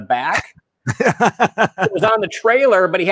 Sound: laughing

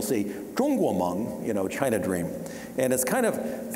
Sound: speaking Chinese

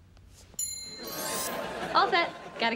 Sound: ding and harp strum

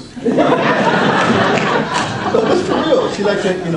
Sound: audience laughs

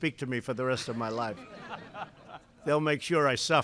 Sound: laughter

